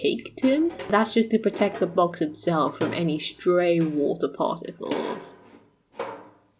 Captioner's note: metal clanking